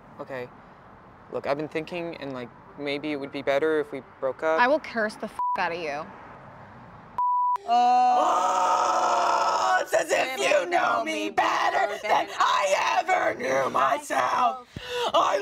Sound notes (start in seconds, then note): 7.2 beep; 7.6 screaming